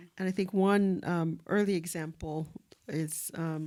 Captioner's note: none